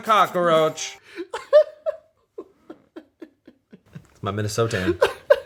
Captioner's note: laughs